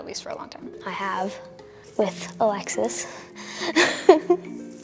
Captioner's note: laughs